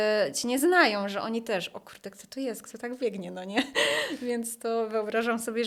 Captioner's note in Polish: śmiech